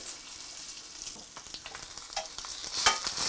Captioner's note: sizzling